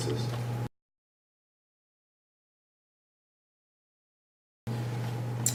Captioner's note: silence